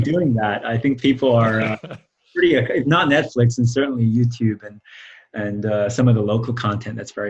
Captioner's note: laughs